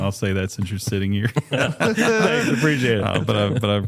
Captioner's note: laughter